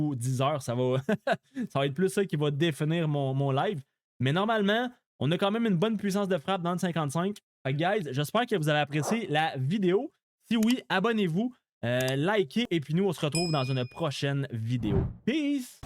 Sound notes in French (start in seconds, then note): 0.9 rires